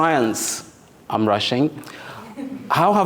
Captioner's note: audience chuckles